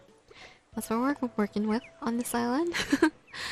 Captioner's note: laugh